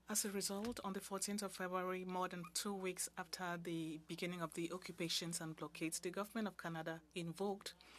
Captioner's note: speaking French